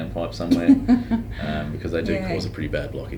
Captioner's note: laughing